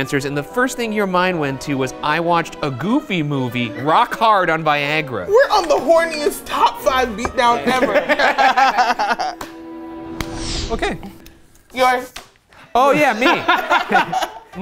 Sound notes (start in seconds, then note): 7.4 all laughing; 12.9 all laugh